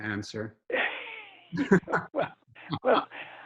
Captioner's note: laughs